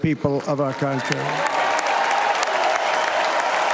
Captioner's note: applause